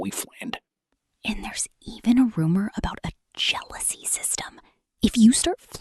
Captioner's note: whispering